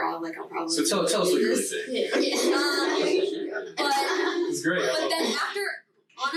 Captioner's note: group chattering